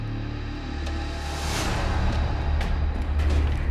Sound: none

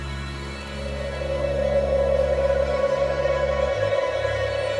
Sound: spooky wind whistling

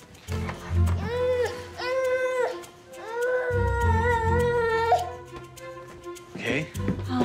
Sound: baby fussy

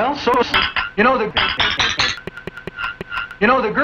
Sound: mug slamming against plate repeatedly

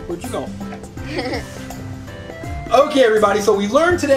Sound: assistant laughs

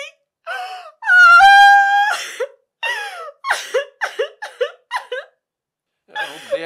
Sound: DARIA crying

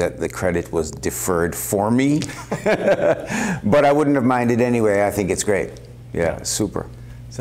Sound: laughter

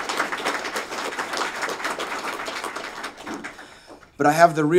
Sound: applause

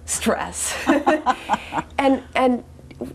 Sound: both laugh

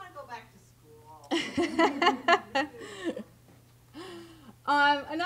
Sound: laughter

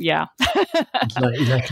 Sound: laughs

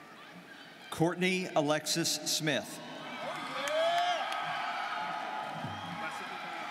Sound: students cheering

